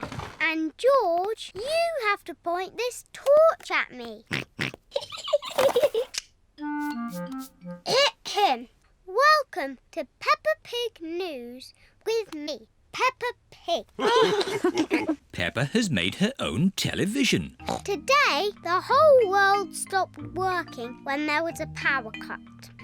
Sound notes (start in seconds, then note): 4.3 snorts; 4.9 giggling; 14.0 all laugh